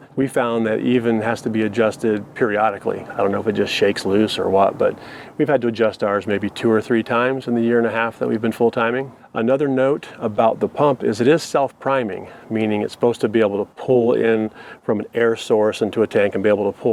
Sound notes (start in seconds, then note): none